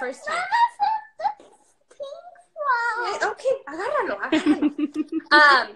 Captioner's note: foreign language